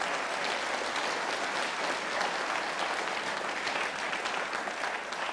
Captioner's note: audience applauding